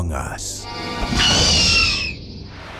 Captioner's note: creature shrieks